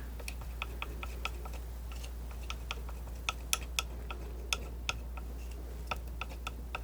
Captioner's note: tapping